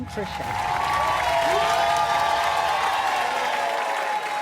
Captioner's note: applause and cheers